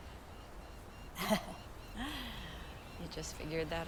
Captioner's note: Vanessa chuckles